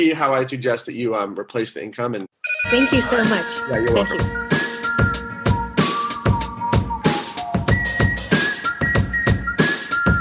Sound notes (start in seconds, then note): 2.4 phone trilling; 5.1 upbeat music